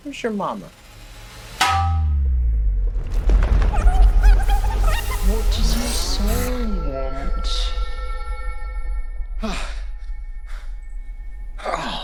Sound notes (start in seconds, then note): 1.6 metal clanging; 4.1 dramatic music; 9.6 Oliver gasping